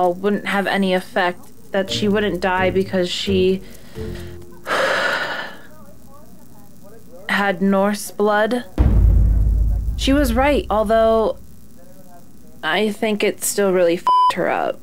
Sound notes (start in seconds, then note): 4.6 sighs